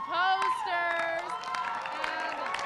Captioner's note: cheering